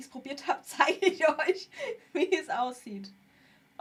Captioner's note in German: gelächter